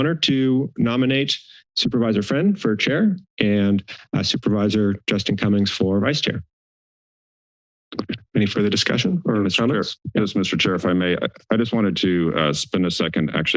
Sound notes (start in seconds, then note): 6.7 silence